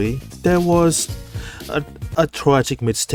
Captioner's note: breathing in